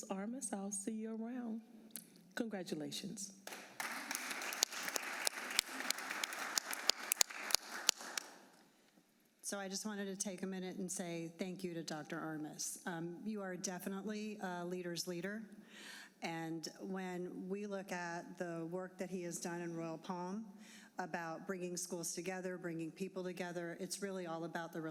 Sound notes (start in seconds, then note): 6.3 applause